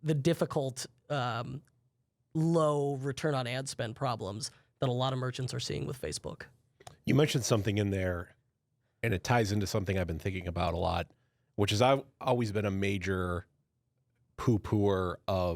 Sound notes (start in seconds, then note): none